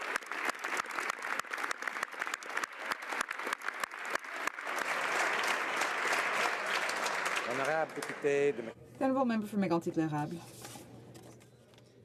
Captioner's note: some Applause